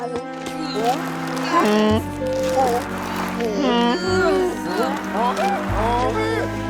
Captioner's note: speaks gibberish; panicked braying